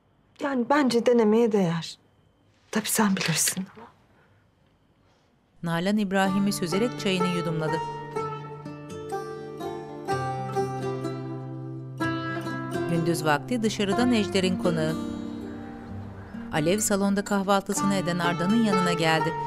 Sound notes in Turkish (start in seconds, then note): 6.1 Müzik - Duygusal; 15.1 Kuş cıvıltısı sesi; 17.5 Müzik - Duygusal